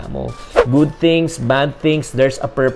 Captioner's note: swoosh